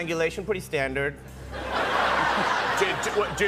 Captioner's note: laughter